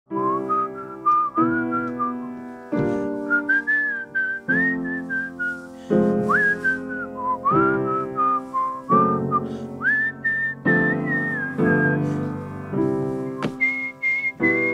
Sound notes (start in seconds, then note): 0.0 piano music; 0.1 Charlie whistling